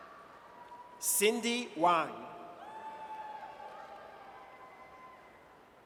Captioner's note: audience cheers